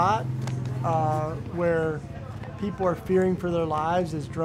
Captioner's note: none